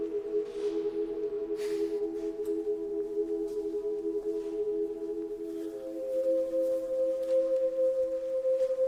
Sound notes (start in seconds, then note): 1.5 sighs